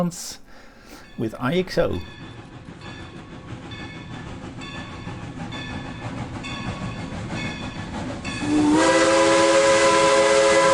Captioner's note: train